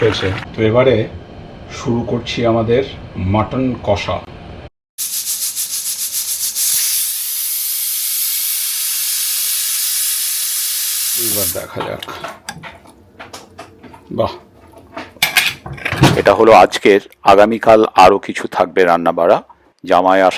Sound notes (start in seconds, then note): 7.2 the pressure cooker whistles loudly